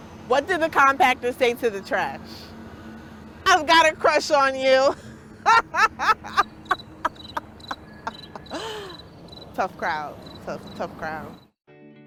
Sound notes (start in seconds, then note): 5.4 laughing